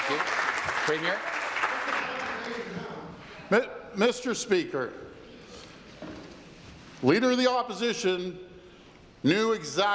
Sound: applause

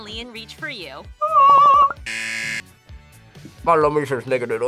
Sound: buzzer

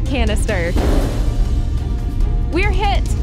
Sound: metal Thunk

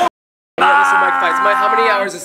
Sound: yells

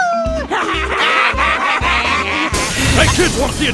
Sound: kidz Laughing

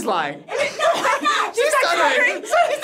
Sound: both laugh

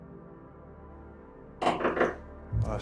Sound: knocking

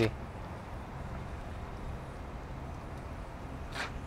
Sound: air whirring

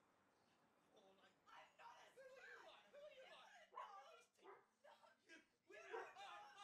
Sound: Alison and her father shouting in the background

